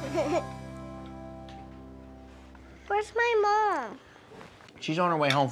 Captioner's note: giggles